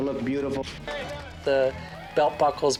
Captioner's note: cheers and applause